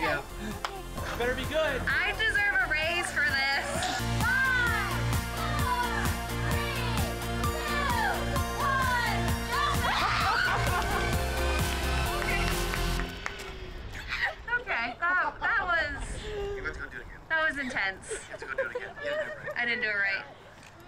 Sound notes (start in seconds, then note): 9.6 screams